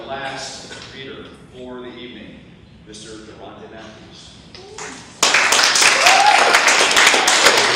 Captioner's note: audience cheers and claps